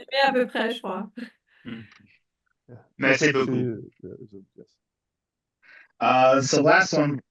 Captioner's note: speaking in French